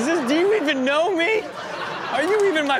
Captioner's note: audience laughs